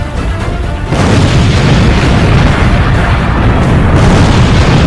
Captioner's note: bomb banging